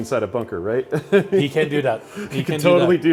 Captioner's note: laughs